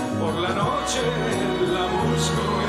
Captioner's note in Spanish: none